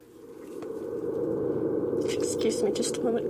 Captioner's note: wind whirring